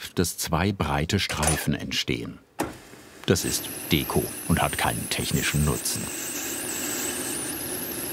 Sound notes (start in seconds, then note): 6.3 machine whirring